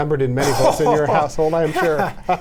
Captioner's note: Ed laughs